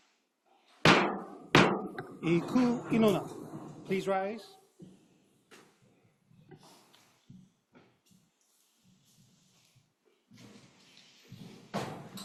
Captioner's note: gavel bangs twice